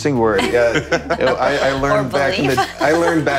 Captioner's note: panelists laughing